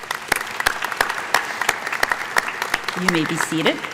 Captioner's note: applause